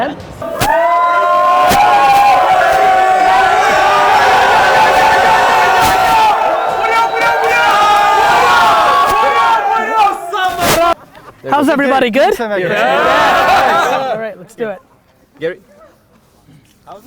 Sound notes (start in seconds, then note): 0.2 crowd cheering; 2.7 crowd; 12.6 crowd cheers